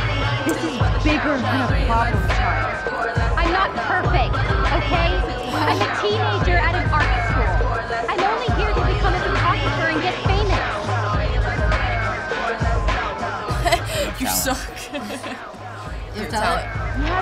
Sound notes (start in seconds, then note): 13.4 laughs